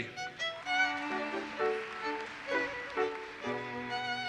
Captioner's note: audience applauses